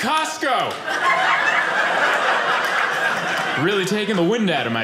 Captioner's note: audience laughing